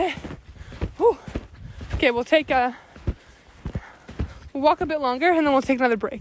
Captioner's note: panting